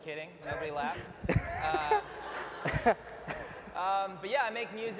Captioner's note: & audience laughs